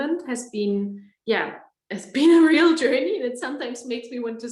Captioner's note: laughs